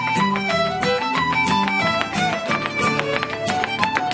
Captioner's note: shoes tapping